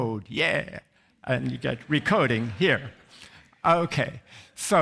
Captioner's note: audience laughs